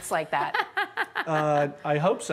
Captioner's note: laughing